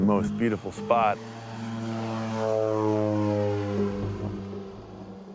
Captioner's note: engine droning